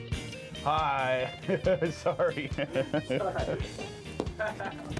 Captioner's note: laughs